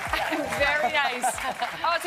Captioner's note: applause